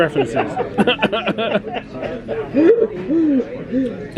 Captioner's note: both laughing